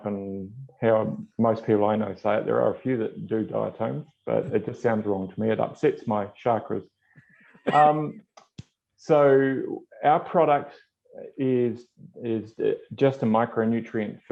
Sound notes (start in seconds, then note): 7.6 chuckles